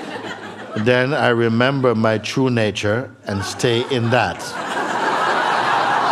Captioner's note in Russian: смех